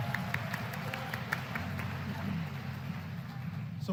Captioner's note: applause